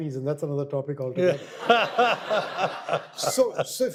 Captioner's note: audience laughter